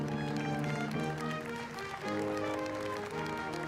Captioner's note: applause